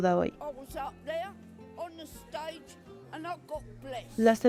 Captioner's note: Hablando idioma extranjero